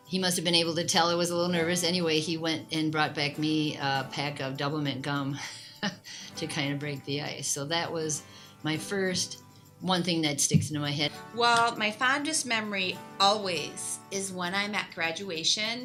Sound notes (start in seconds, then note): 5.8 laughs